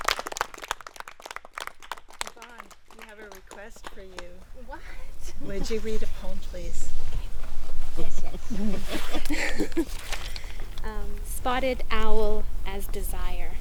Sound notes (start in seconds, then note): 0.0 applause; 7.8 light laughter